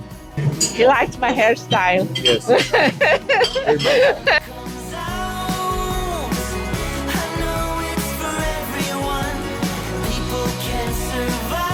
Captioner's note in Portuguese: risos